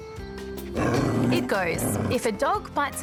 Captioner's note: growls